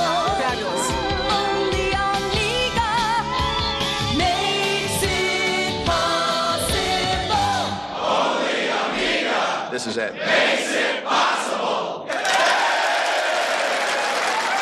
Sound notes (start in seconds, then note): 7.6 crowd; 12.0 cheering; 12.1 applause